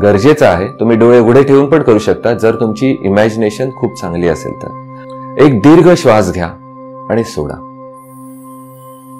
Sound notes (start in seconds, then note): 4.9 inhale